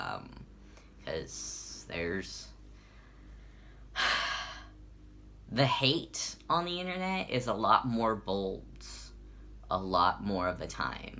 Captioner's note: sigh